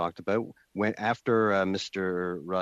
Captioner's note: speaking in French